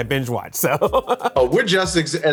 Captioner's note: laughter